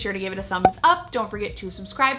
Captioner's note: bubble popping